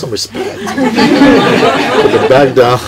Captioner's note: more laughter